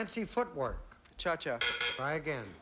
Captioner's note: buzz buzz